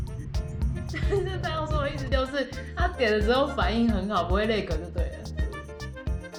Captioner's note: laughs